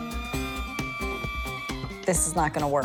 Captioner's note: creaking